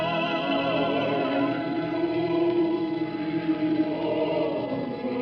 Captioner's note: in a whisper, with great melancholy